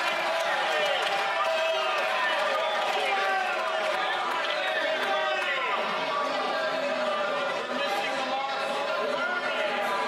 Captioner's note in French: applaudissements